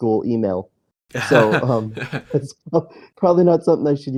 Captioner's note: laughs